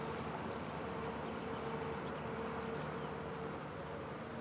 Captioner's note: birds chirping